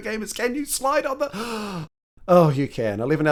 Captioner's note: gasp